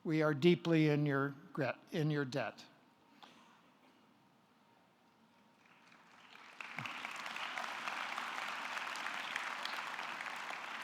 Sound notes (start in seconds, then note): 3.7 audience clapping